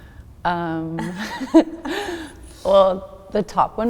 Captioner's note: both laughing